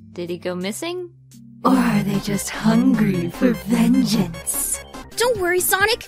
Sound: demonic audio filter

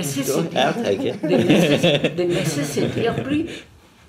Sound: laughs

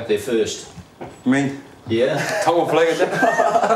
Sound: laughs

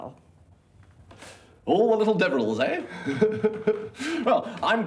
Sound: chuckling

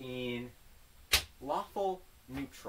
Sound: slap

